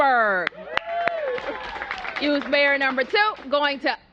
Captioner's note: applause